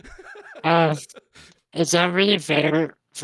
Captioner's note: all laughing